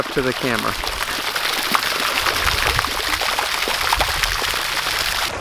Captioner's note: water splattering